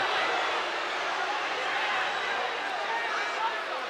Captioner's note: crowd boos